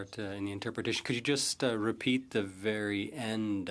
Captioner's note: speaking French